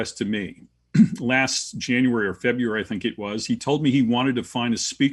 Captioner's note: cough